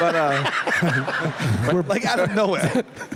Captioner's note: laughter